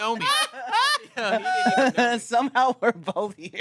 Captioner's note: everyone laughs